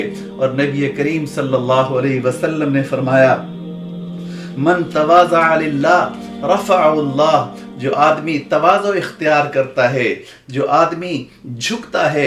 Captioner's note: Arabic